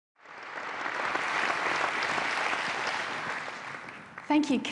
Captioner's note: applause